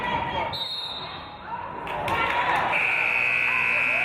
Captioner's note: referee's whistle; buzzer